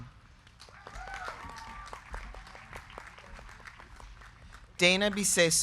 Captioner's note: crowd clapping; crowd cheering